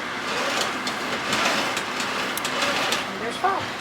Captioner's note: crank clanking